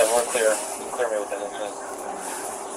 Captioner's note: radio chatter